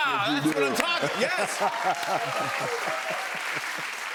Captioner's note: cheers and applause